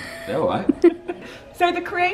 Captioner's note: laughs